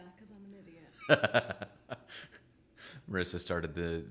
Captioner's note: laughs